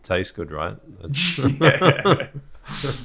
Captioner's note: laughs